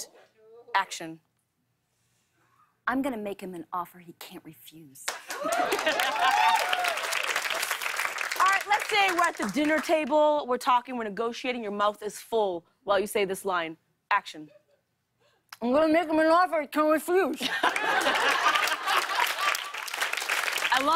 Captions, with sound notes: -I'm going to make him an offer he can't refuse. [ Cheers and applause ] -[ Laughs ] Alright, let's say we're at the dinner table, we're talking, we're negotiating. your mouth is full while you say this line. Action. -I'm gonna make him an offer he can't refuse. [ Laughter and applause ] I love it. I love it.